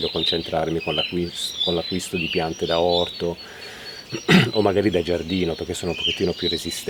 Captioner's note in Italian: schiarire la voce